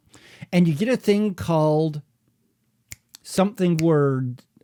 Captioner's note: snaps fingers